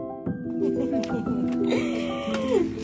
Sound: laughing

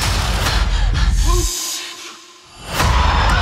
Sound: shushing; screaming

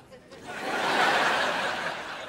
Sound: laughing

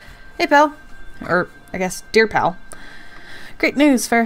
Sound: none

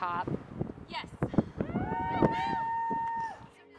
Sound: cheering

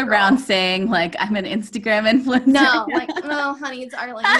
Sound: launghing

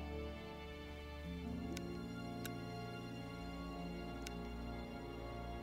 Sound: flashlight clicks

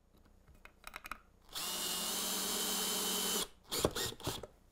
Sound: screw gun

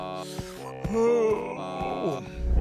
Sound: yawning

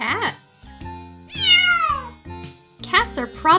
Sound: cat meows

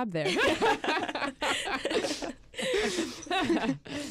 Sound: group laughs

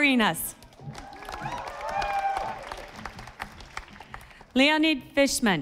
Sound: audience applauding

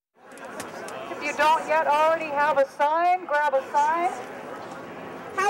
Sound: over bullhorn

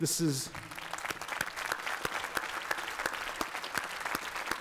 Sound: applause

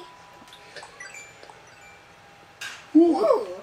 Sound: bells chiming

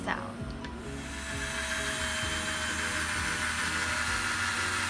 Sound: drilling

